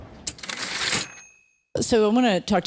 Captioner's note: typewriter ding